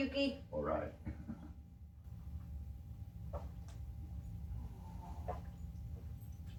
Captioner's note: laughter